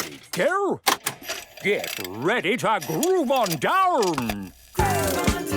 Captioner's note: clicks, whirring; disco music plays